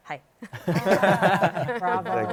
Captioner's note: laughter